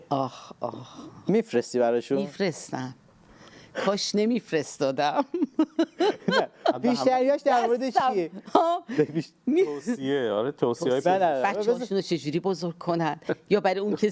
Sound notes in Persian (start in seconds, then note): 5.2 خنده